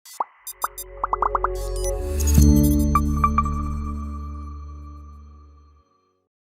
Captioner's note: digital electronic tones; bubbles popping